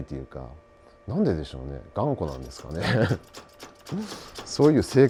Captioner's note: laugh